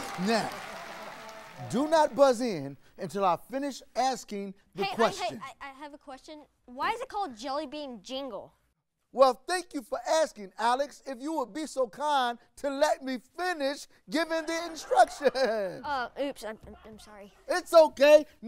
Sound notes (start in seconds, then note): 14.3 audience laughs